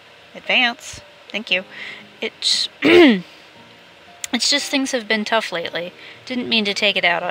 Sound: clears throat

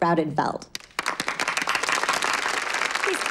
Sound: applause

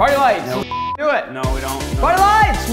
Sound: beep

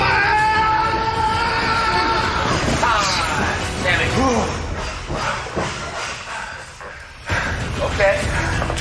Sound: screaming

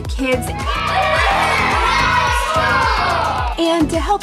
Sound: cheering

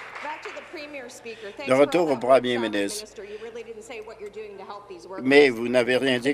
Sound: some Applause

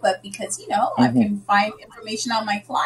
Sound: laughing

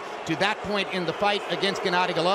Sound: crowd booing

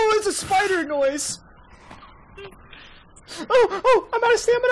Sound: monster noises

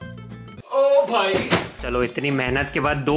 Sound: fwump

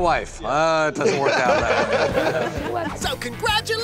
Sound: laughter

